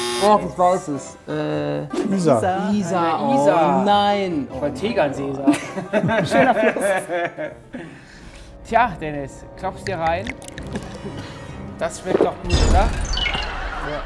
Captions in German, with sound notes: Doch, das weiß ich. Isar. - Isar. Oh nein! - Ich wollt Tegernsee sagen. Schöner Fluss. (Lachen) Tja, Dennis, klopf's dir rein. Das schmeckt doch gut, oder?